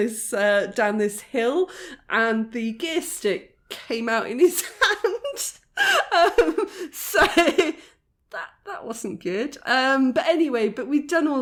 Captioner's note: laughing